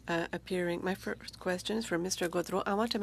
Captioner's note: speaking French